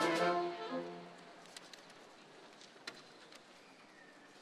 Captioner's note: crowd chattering